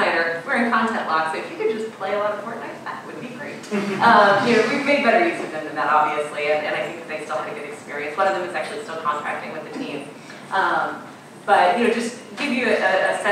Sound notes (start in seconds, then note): 3.7 audience laughing